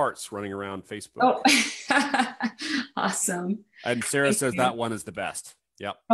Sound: laughs

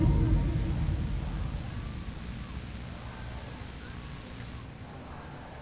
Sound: protesters chanting

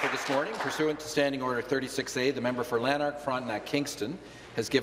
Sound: applause

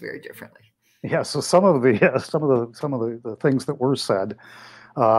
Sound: laughs

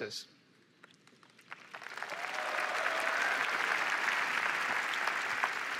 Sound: cheering and applause

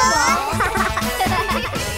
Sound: laughing

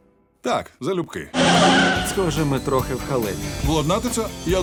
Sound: tires screech

